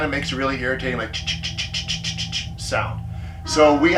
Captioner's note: imitates chittering